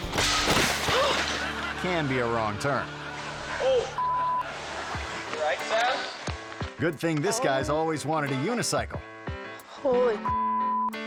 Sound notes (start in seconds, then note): 0.0 bike crashing; 4.0 beep; 9.6 upbeat music; 10.2 beep